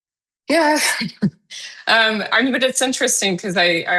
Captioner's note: chuckling